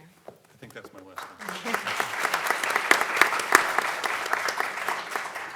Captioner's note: audience clapping